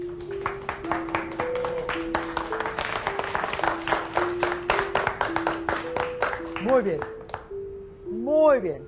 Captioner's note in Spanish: aplausos